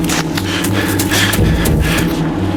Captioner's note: panting